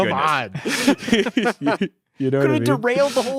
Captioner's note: all laughing